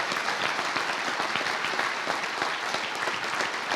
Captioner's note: applause